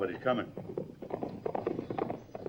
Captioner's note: hoofbeats